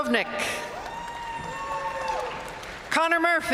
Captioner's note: audience cheering and applauding